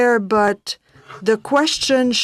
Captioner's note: speaking French